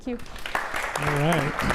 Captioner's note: applause